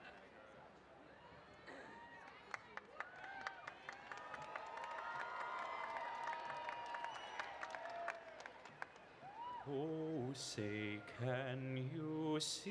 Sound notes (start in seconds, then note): 3.9 applause